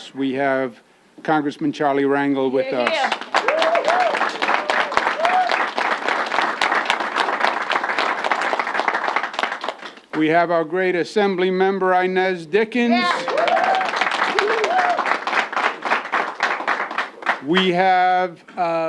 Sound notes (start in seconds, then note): 10.1 applause